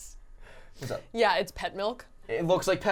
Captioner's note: laughing